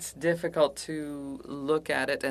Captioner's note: speaking French